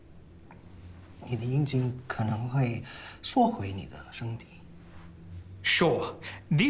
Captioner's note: Calvin translating in Mandarin